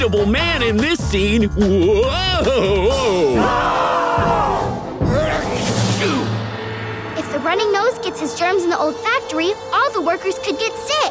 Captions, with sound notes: in this scene. Whoa, whoa. [screaming] [sneezing] If The Running Nose gets his germs in the old factory, all the workers could get sick.